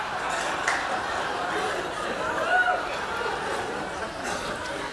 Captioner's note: laughter